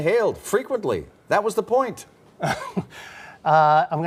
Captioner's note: laughter